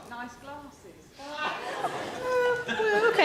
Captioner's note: audience chuckles